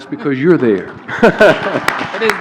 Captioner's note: laughs; applause